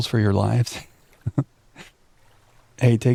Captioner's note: chuckles